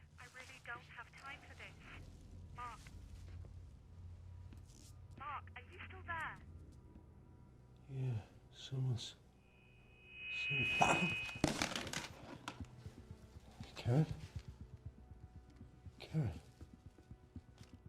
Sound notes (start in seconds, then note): 11.7 loud screeching noise